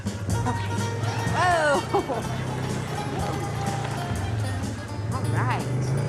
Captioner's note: chuckles